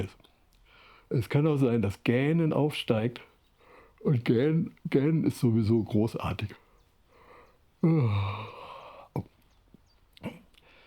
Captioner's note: yawns